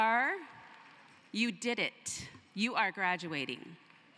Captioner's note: cheering and applause